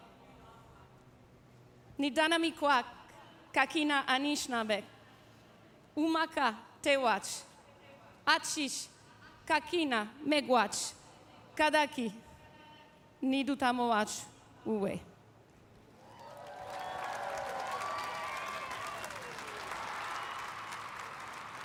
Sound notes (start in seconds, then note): 9.6 speaking algonquin language